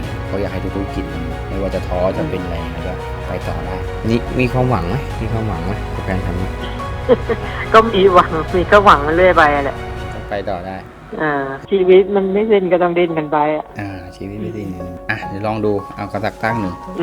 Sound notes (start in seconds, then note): 6.5 laughing